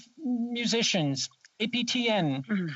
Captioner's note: speaking French